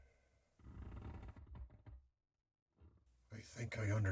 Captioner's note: creaking overhead